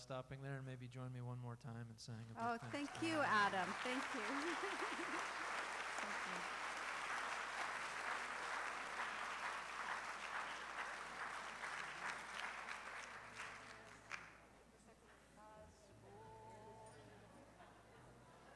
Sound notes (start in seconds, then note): 4.6 applause